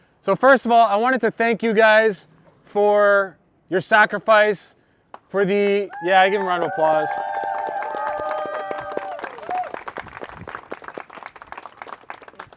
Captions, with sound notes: So first of all, I wanted to thank you guys for your sacrifice, for the-- Yeah, I give a round of applause. (applause)